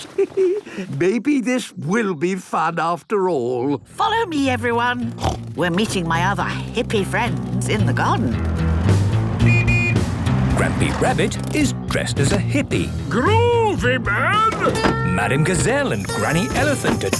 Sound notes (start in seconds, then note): 5.1 snorts; 9.4 honking